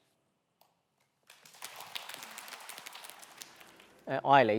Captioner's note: applause